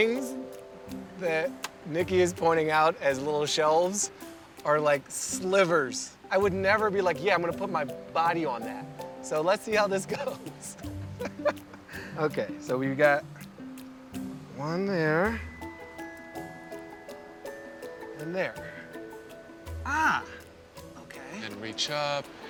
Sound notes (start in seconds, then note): 10.6 laughs